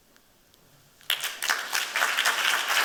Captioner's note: applause